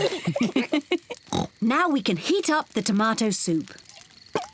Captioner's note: all laugh; oinks